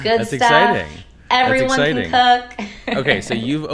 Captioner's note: chuckling